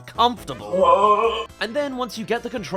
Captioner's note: augh!